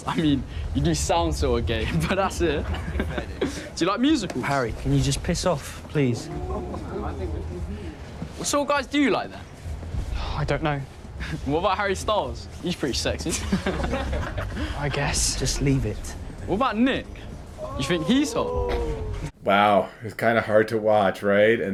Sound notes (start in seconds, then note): 5.4 boys chattering indistinctly; 13.2 boys laughing